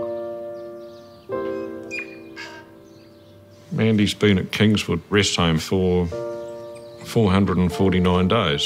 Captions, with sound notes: (BIRDS TWEET, TUI CALLS) Mandy's been at Kingswood Rest Home for 449 days.